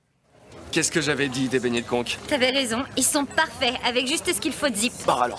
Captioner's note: speaking in French